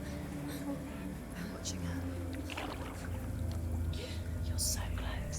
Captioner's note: frightened breathing; whisper